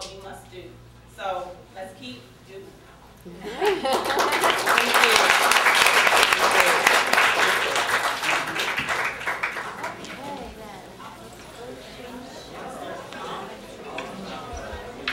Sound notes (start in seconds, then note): 3.2 crowd noise